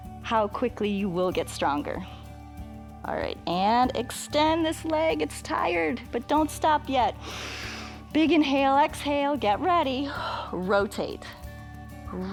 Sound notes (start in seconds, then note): 7.2 inhales